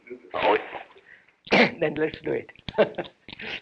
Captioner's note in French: Rires